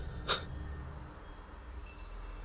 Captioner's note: chuckles